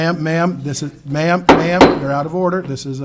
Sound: gavel taps

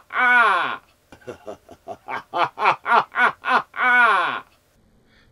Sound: evil laughter

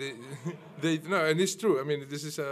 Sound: laughter

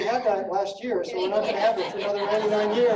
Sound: laughing

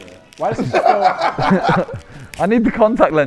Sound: JJ laughing

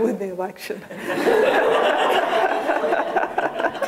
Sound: laughter

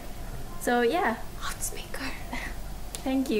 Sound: zasqiya whispers

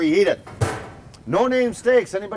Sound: grill lid clangs

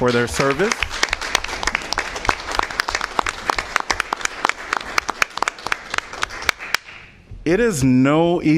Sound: applause

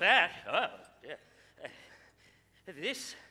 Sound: chuckles

